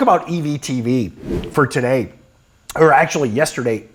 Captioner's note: screen whooshing